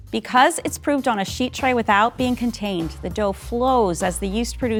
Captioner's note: none